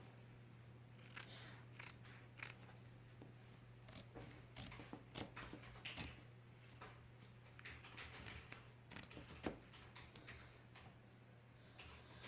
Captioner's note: sound of scissors cutting